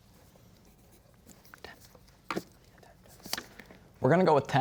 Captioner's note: whispering